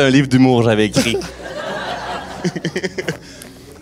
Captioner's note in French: rires